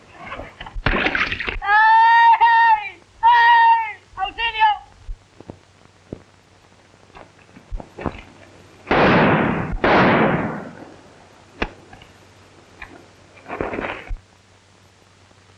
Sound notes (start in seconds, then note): 1.9 splash; 2.9 shouting